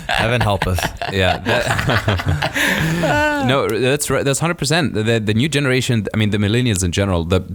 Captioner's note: laughing; laughs